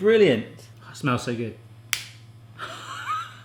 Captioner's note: lighter clicking; laughing